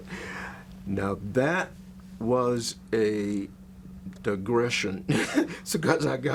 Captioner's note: laughs